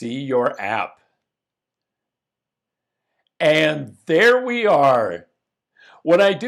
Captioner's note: dramatic pause